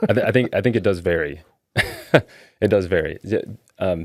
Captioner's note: laughing